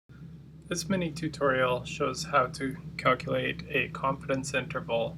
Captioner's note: voiceover